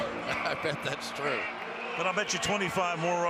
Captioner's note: laughs